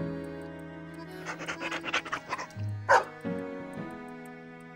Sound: bark bark

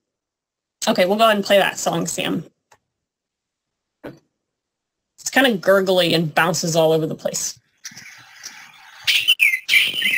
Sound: sound effect

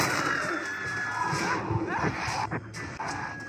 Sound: quick multi-shot fire; cold-blooded sounds; zombie colossus roar and cold-blooded sounds

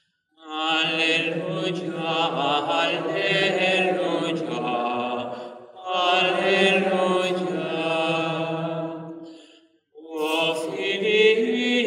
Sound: chant

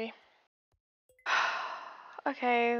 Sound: exhale

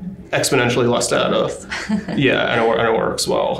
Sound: laughs

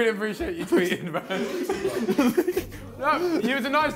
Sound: laughs

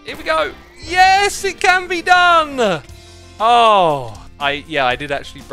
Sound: relieved sigh

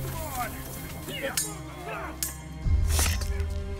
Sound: men grunting

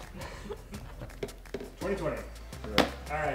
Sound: laughing

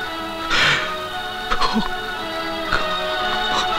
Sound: sobbing

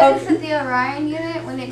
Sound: laughter

